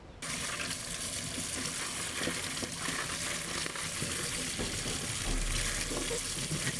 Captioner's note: water flowing sound